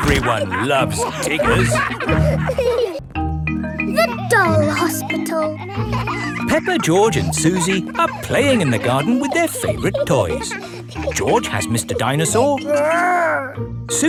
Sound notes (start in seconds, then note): 5.9 kids laughing